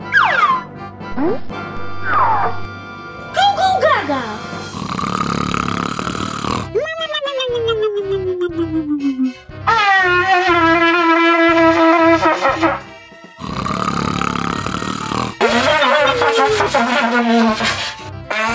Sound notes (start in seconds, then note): 0.3 cartoonish whooshing; 4.4 exaggerated snoring; 10.2 trumpet blaring; 13.3 exaggerated snoring; 15.5 trumpet blaring